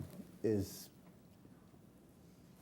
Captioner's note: laughing